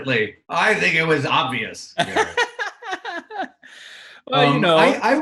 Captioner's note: Garrett laughing